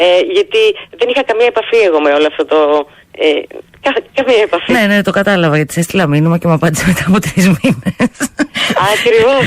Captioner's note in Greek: γέλια